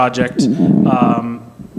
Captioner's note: noise from microphone